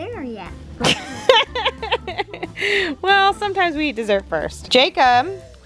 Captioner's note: laughs